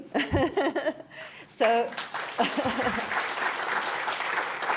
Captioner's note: audience applauds